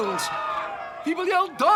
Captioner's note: people yelling